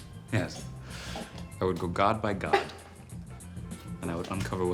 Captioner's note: laughs; laughs